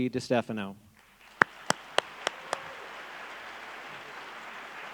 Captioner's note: clapping